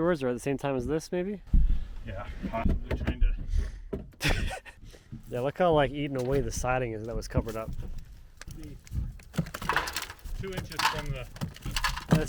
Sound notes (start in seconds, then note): 4.2 chuckling; 8.8 siding clattering